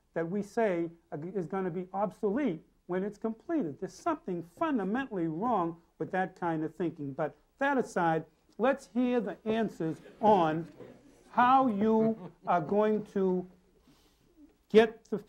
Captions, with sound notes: that we say is gonna be obsolete when it's completed. There's something fundamentally wrong with that kind of thinking. But that aside, let's hear the answers (audience laughing) on how you are going to get the people trained,